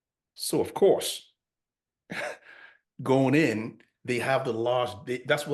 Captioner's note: chuckles